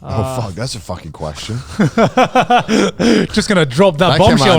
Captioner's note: laughs